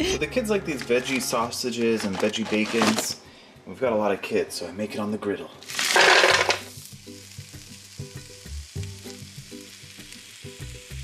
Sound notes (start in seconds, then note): 5.6 sausages falling; 7.2 meat sizzling; 8.3 gentle music